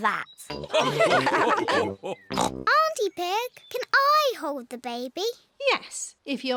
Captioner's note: all laugh